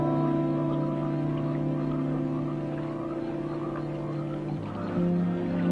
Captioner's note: frogs croaking; gentle music